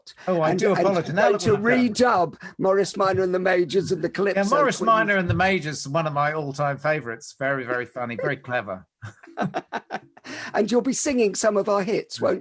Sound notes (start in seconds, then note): 9.0 laughs